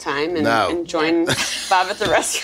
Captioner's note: laughs